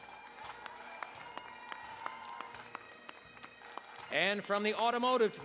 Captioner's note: cheering, applause